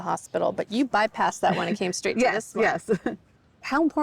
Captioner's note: chuckles